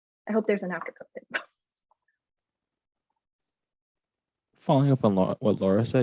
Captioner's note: scoffs